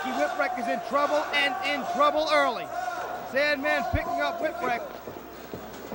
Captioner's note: crowd cheering